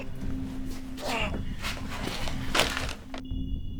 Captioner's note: Isaac grunting